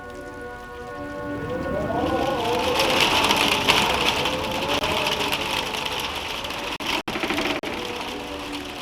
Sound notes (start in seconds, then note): 0.0 wind howling; 3.7 rain rattling